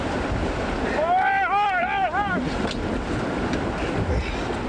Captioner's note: instructor yelling